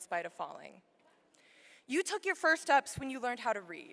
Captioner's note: none